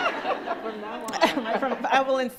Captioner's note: crowd laughs